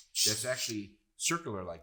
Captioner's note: drill whirs